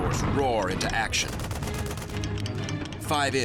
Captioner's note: gunfire